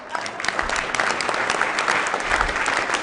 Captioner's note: applause